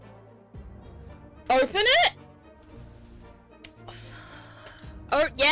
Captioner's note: sighs